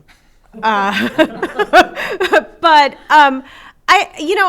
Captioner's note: laughter